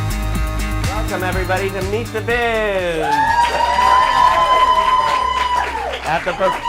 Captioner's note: applause